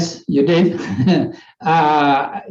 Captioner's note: chuckles